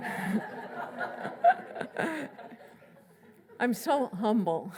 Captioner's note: laughs